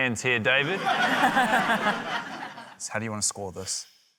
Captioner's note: laughter